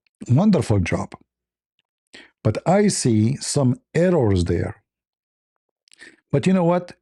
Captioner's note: Arabic